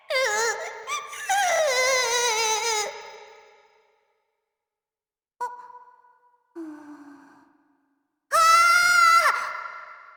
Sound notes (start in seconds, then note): 0.0 sob; 6.6 breath; 8.4 dramatic gasp